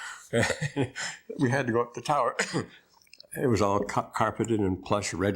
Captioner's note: laughter